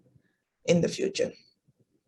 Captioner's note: silence